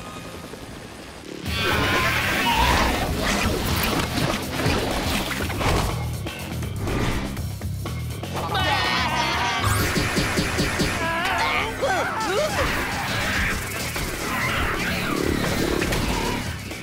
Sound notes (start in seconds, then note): 1.4 screeching; 11.5 grunting